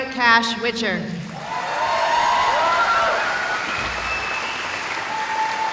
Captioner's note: cheering